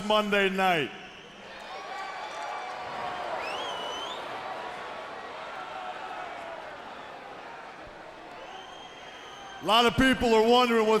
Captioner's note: crowd chatter